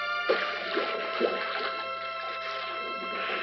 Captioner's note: water splashes